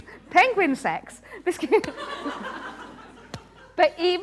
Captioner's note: laughter